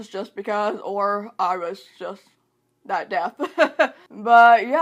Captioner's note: laughs